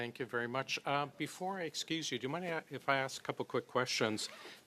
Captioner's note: speaking French